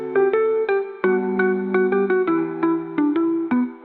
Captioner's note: none